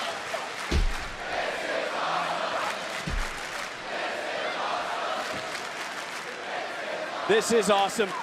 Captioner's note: crowd chants "this is awesome"